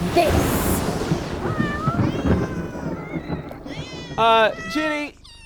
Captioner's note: thunder rumbles; meowing